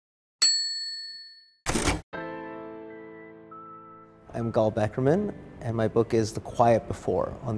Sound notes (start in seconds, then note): 0.4 dinging; 2.1 soft music